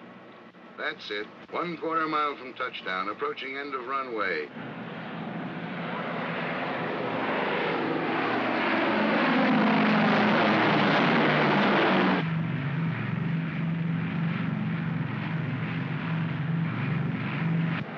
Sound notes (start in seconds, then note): 5.3 aircraft roars; 12.1 aircraft rumbles